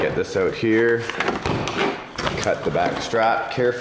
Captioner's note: packaging rustling